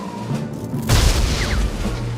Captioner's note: snow thuds